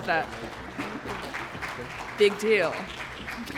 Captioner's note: applause